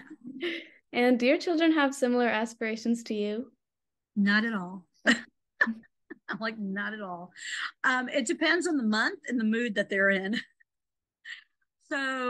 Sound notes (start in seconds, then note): 5.5 laughs